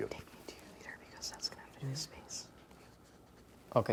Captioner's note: whispering